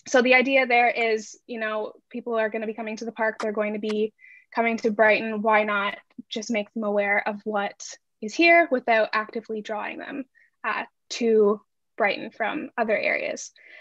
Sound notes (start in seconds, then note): none